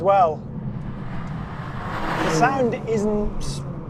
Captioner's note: vehicle revs